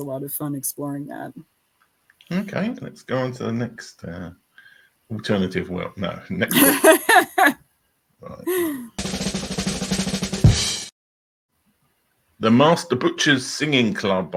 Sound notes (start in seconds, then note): 8.2 laughs; 8.5 drum roll